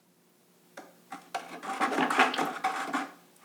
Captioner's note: bucket rattling